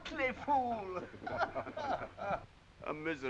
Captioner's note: all laughing